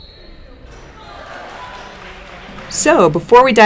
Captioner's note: whistle blows; applause